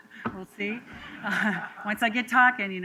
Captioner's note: laughter